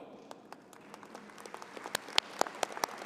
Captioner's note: applause